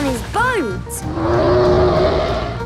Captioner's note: loud roar